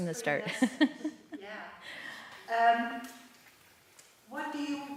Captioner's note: laughter